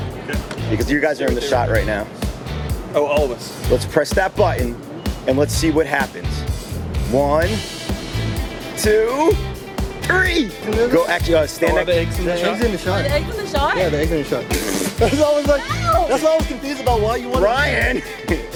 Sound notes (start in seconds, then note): 15.8 snorts; 18.3 happy rock music